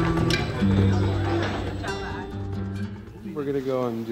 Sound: people talking

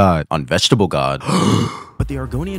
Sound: gasp

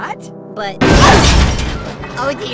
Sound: crash!

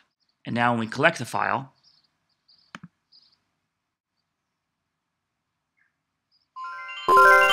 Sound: computer chimes

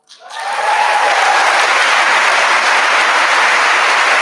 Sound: audience applauding

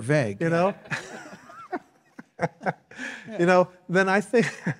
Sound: laughing

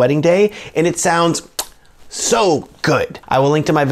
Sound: lips smack

